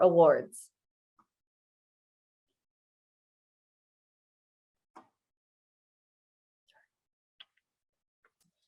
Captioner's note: silence